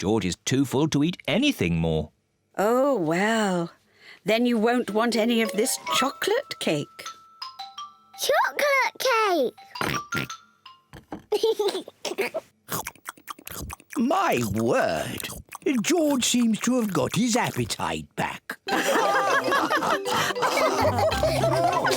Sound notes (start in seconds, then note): 9.8 oinks; 11.3 giggles; 18.7 all laughing